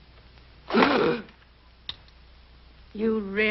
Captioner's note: Alfred gasps